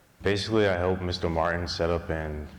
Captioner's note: none